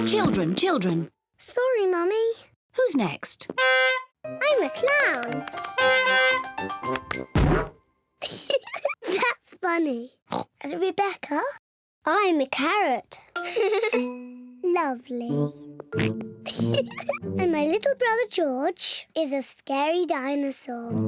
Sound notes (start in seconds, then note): 3.5 horn honks; 5.6 horn honks; 7.3 thud; 8.2 giggles; 10.3 oinks; 13.4 giggles; 15.3 george oinks; 16.4 giggles